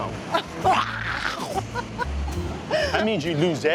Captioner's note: laughs